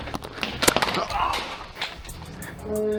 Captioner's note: footsteps; light thunk and grunt; loud hum